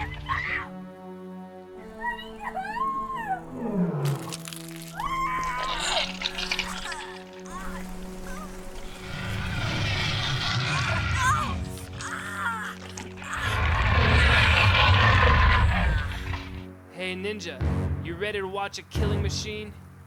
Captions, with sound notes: Let me go, let me go! (trog growling) (witch screaming) - Hey, Ninja, you ready to watch a killing machine?